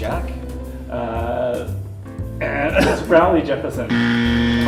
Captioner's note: buzzer sound